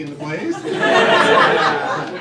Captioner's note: crowd laughing